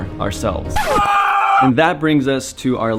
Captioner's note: record Scratching; screaming